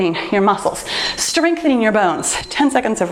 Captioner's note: timer beeps